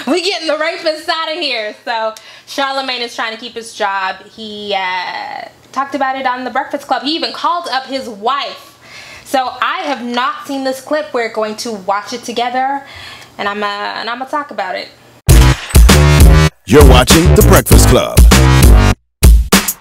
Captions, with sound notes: We getting the rapists outta here. So, Charlemagne is tryna keep his job. He talked about it on The Breakfast Club. He even called up his wife. So I have not seen this clip we are going to watch it together. And Imma talk about it. (upbeat hip hop instrumental) - [Male Voice] You're watching The Breakfast Club.